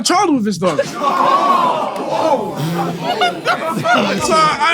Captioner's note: people in room exclaim in shock